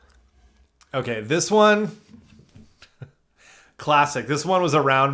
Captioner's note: chuckles